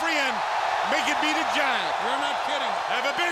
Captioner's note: audience cheering